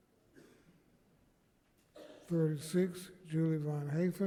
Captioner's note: person coughing